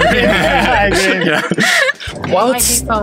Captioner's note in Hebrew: צחוק